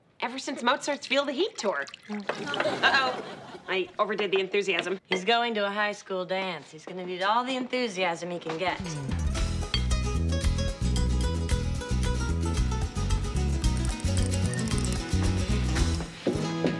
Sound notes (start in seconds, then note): 2.4 audience laughs; 8.7 upbeat acoustic guitar music